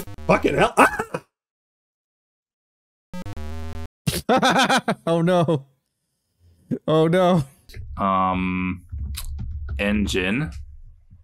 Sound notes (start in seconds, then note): 4.1 laughs